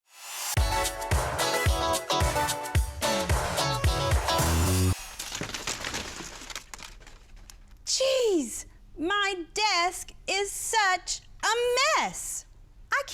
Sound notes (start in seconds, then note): 0.6 catchy music; 5.0 papers cluttering